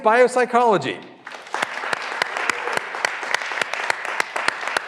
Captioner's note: graduands applauding